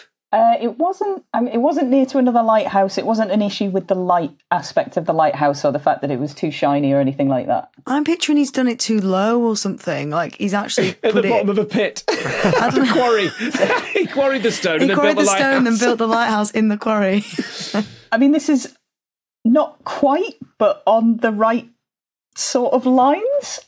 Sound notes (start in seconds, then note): 12.0 laughs